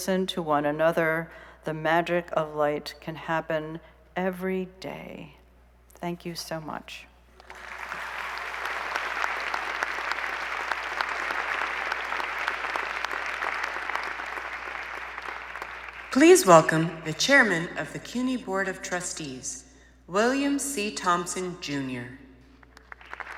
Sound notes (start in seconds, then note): 10.9 applause